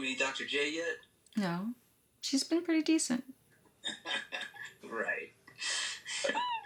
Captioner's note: laughs